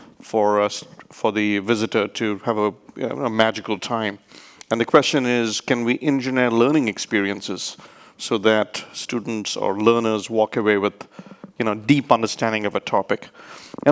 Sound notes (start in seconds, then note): none